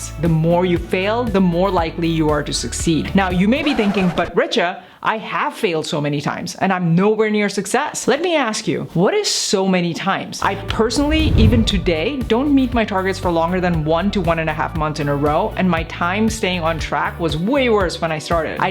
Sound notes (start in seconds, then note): 3.6 record scratches; 11.2 upbeat music